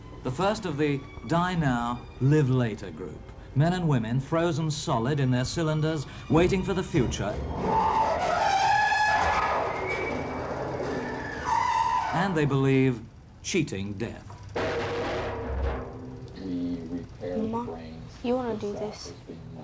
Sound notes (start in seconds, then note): 8.1 metal scraping; 14.3 metal clanging